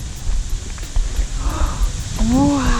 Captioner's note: gasps